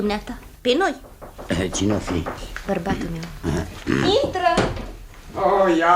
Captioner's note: knocks discreetly on the door